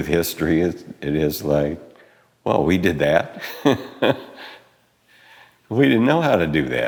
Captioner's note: laughs